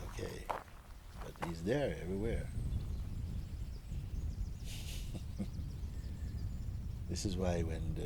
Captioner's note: Mooji laughs